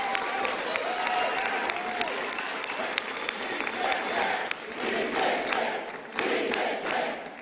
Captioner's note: chanting "we pick rick"